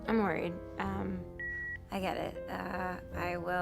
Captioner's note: line beeps